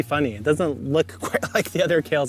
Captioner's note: laughing